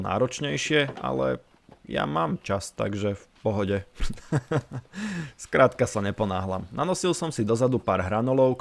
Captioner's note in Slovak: smiech